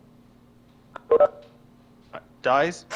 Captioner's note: beep